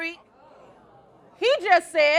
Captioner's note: crowd oohing